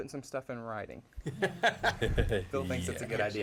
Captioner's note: laughter